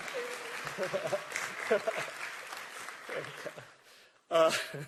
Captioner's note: applause